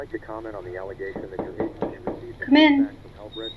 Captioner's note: knocking